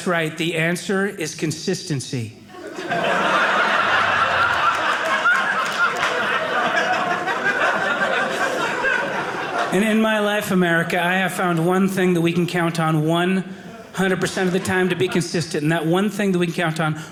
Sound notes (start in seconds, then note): 2.4 audience laughing